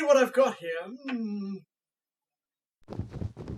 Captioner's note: mumbles to self; snow scrunches